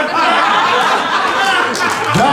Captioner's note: laughter